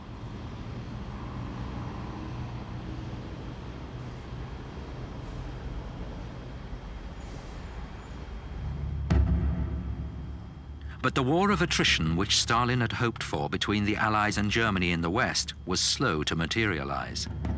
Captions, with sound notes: (tank engines rumbling) (suspenseful music) But the war of attrition which Stalin had hoped for between the Allies and Germany in the west was slow to materialize.